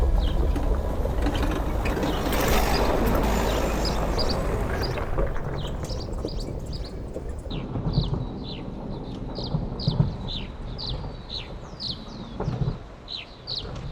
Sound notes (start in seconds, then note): 1.3 bird chirping and off-road vehicle engine sound